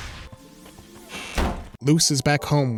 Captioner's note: door creaks